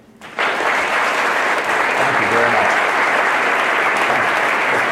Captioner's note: applause